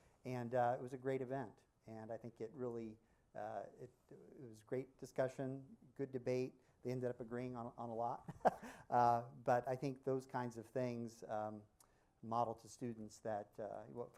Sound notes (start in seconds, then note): 8.2 laughter